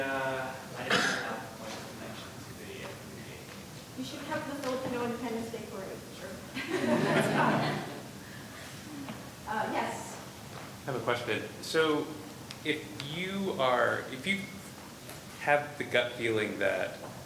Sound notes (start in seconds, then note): 0.2 student speaking faintly; 6.5 laughter